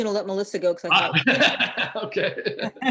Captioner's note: laughs